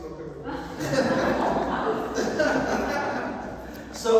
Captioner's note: laughter